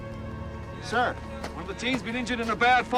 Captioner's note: McCoy over radio